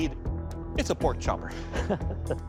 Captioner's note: laughs